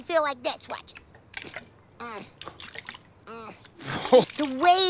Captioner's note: water sloshing